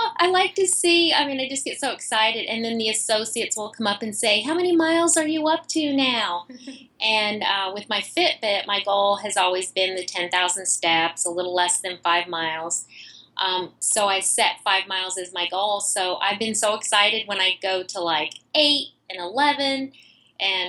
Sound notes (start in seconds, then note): 6.4 laughs